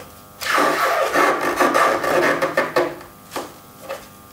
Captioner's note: loud crunching